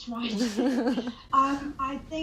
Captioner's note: laughter